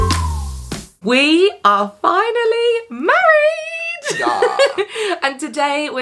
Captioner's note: laughs